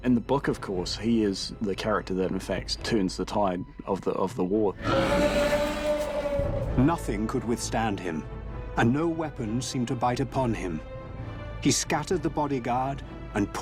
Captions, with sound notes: In the book, of course, he is the character that in fact turns the tide of the war. [NARRATOR READING ON-SCREEN TEXT]